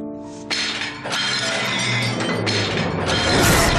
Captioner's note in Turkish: Cam kırılma sesleri gelir